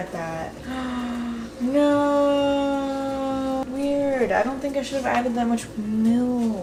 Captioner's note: gasps